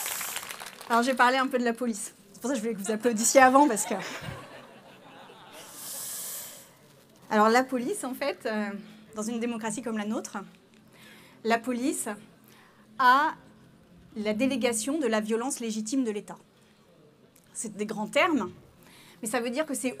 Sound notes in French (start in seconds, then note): 6.5 Rires